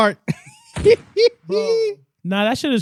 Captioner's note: laughing